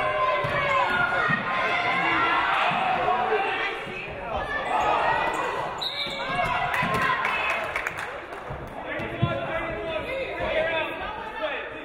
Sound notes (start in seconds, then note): 5.7 referee blows whistle; 8.4 audience applauding